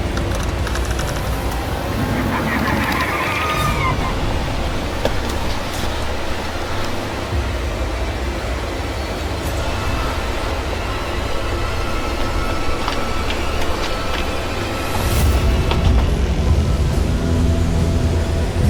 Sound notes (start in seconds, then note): 1.7 alien shrieking; 5.7 suspenseful music